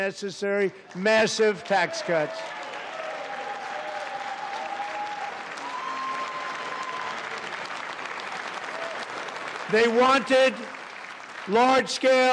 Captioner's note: applause